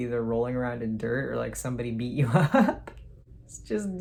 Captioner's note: laughs